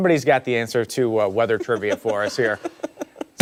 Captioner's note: laughter